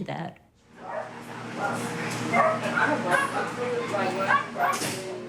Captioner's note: dogs barking